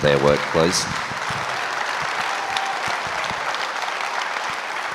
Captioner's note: audience applauds